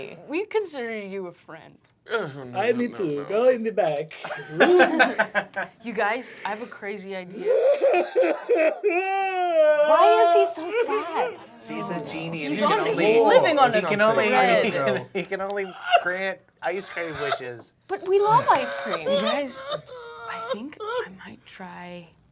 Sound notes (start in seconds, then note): 2.8 exotic accent; 4.2 laughter; 7.3 imitates sobbing; 12.7 everyone chattering; 19.7 imitates sobbing